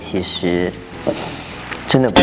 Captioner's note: taking a deep breath